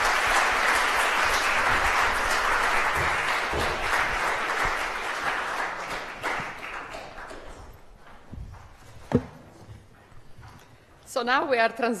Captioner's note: applause